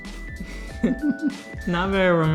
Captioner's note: giggle